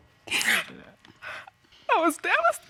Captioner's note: crying